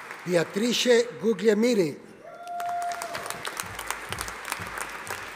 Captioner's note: audience applauding